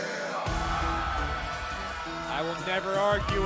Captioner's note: crowd cheering